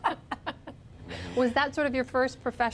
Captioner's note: laughter